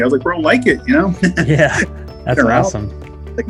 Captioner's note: laughing